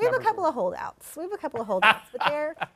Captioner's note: laughs